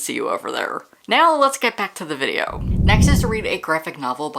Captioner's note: whoosh